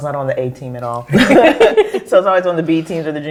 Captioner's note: all laugh